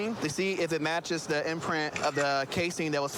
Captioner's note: camera app clicks